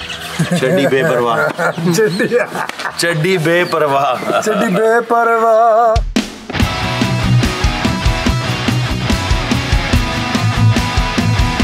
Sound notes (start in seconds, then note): 0.0 laughs; 4.9 sings